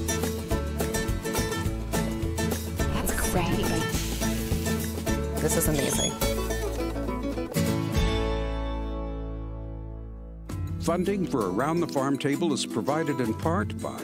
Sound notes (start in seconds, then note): 4.0 frying pan sizzles